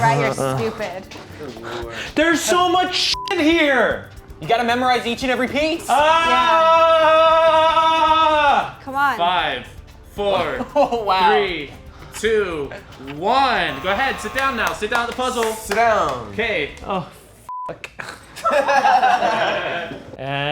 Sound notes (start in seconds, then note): 3.1 beep; 6.1 yelling; 17.5 beep; 18.3 everyone laughing